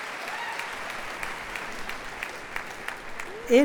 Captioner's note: applause